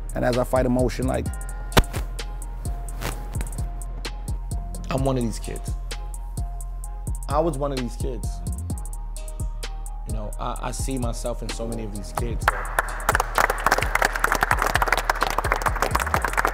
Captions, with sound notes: and as I fight emotion... I'm one of these kids. I was one of these kids. I see myself in so many of these kids. (team members clapping)